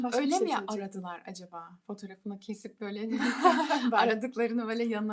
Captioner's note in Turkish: kahkaha